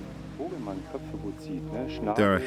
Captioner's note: man speaking German